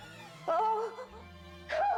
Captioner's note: moaning